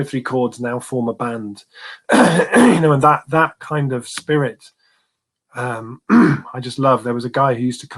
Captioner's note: cough; erm cough